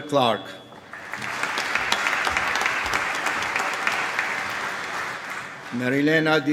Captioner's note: applause